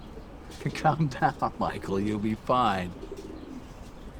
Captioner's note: laughs